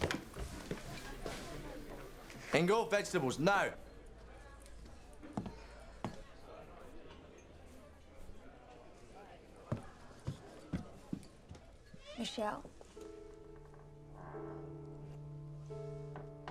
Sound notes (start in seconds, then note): 0.0 patrons chattering; 5.1 patrons chattering; 13.6 gentle music